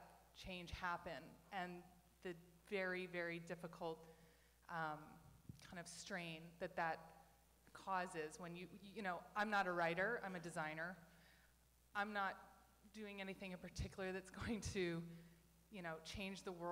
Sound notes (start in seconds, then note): none